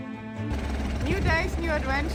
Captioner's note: helicopter motor whirring